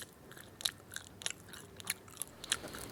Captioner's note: chewing loudly